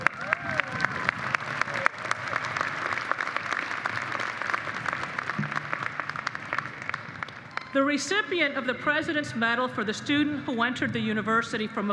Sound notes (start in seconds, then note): 7.7 applause